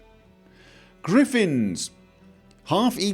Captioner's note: deep Breath